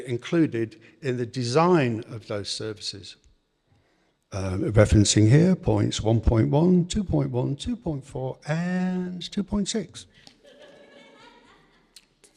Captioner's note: audience laughter